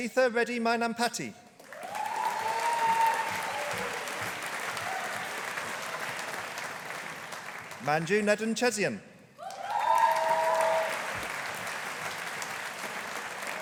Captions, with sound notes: Akshitha Reddy Mynampati. (AUDIENCE APPLAUDING) Manju Nedunchezhian. (AUDIENCE APPLAUDING)